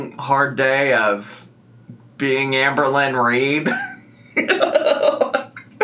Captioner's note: laughs